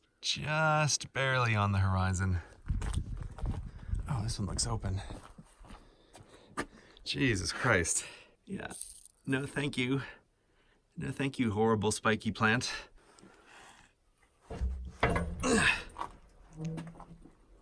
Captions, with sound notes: Juuust barely on the horizon. Oh, this one looks open. Jesus Christ. Yeah. No, thank you. No, thank you, horrible spiky plant. [metal creaking] clank Ugh.